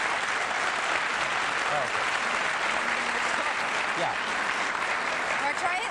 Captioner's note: applause